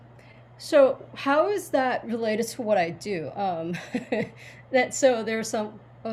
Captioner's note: chuckles